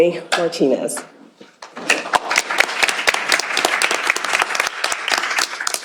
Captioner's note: applause